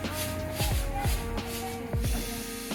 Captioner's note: chuffing sound